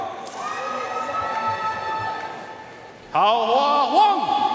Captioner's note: audience cheering and applauding